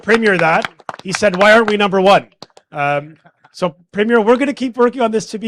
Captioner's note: applause